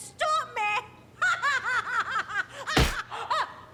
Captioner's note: laughing